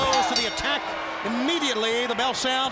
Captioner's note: bell ringing